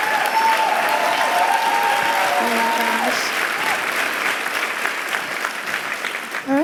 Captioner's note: cheers and applause